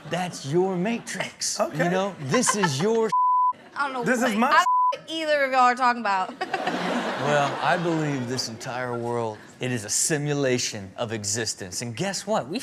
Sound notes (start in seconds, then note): 2.3 Chanel giggles; 3.1 beep; 6.2 crowd laughing